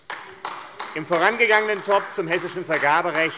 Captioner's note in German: Beifall AfD